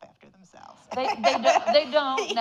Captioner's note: audience laughing